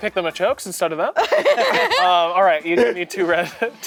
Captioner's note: laughing